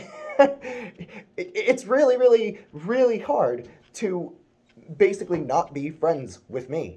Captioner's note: chuckles